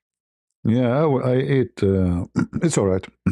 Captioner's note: berdehem